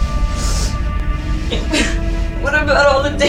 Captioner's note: Sally sniffs